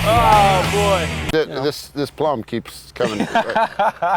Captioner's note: loud rock music; both laughing